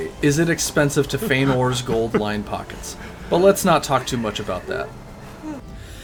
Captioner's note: loudly Sobs